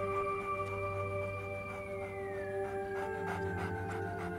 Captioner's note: coyote panting